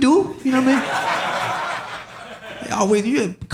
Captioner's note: audience laughing